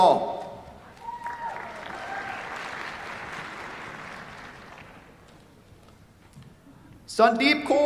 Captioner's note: applause